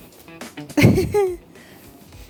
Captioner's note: laughs